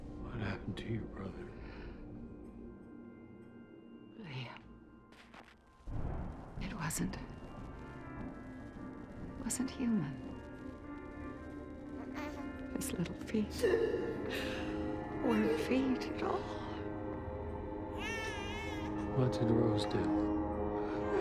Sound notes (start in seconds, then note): 15.9 baby crying